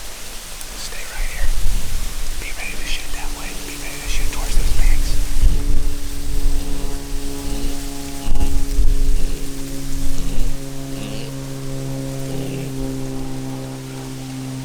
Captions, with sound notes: Stay right here. Be ready to shoot that way, be ready to shoot towards these pigs. (plane flying by)